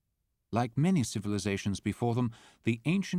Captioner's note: voiceover